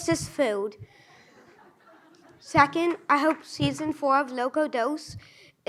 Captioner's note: audience laughs